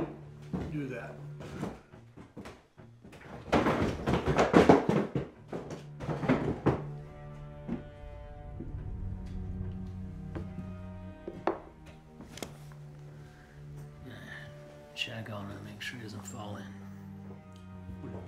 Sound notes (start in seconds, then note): 3.2 door clattering; 7.4 ominous music continues